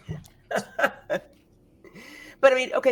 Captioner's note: chuckles